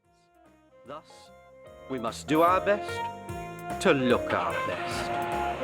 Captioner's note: comedy tv show playing